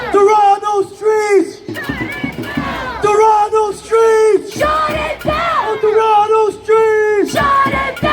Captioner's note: chant